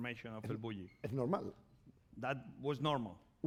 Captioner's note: speaking spanish